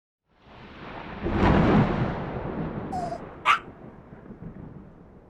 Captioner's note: thunderclap, whine, bark